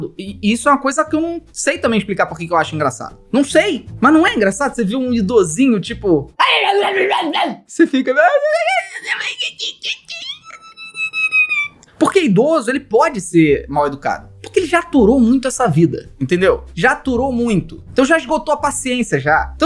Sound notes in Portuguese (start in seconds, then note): 6.4 resmunga